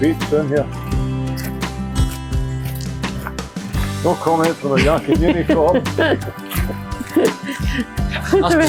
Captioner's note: laughter